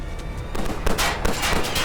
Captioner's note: gunshots